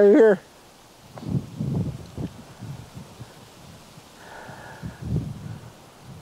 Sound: soft wind

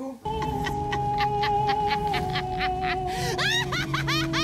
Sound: woman laughs

